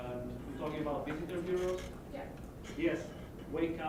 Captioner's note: voiceover